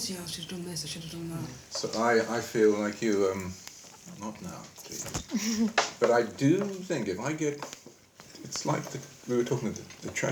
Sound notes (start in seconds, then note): 5.3 laughing